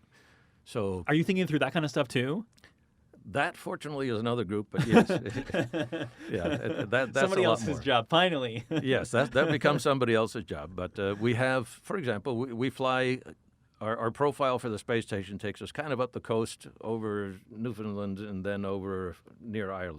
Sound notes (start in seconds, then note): 4.8 laughing